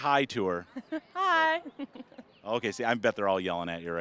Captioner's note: laughing